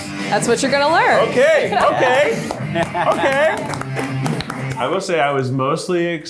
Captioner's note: everyone claps